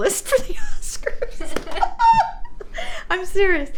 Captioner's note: all laughing